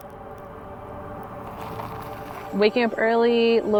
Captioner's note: tires rolling over gravel